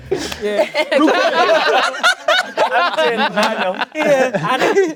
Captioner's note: everyone laughing